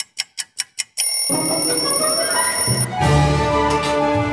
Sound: clock ticking; timer ringing

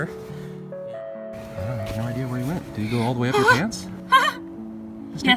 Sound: shrieking

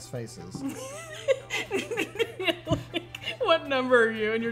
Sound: laughs

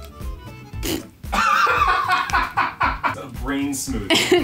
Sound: off-camera laughing

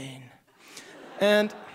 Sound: audience laughing

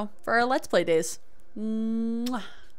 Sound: kiss

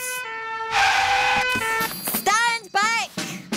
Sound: siren blaring

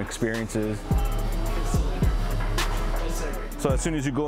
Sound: chatter

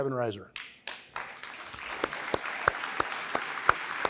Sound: applause

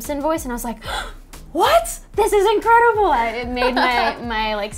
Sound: gasps

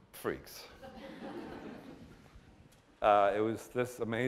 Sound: laughter

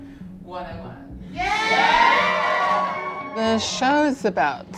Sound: crowd cheering

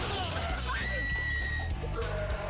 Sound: screaming

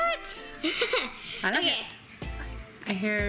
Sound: laughing

